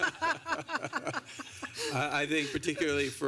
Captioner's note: laughter